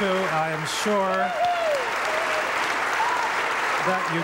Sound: audience applauding

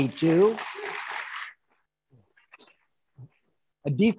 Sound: audience applauding

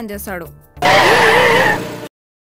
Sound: tyres screeching

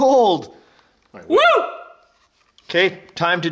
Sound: whoop

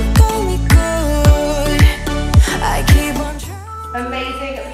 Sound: timer beeping

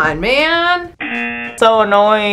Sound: buzzer rings

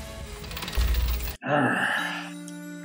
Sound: growls

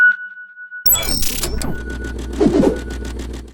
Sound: digital static

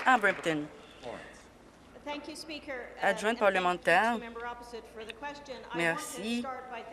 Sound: applause

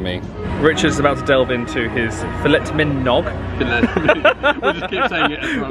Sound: laughs

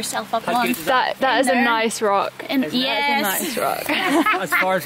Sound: laughing

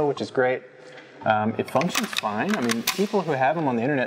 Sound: gun charging click

